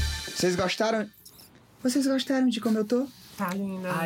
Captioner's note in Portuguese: com voz feminina